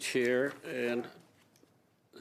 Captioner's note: speaking in French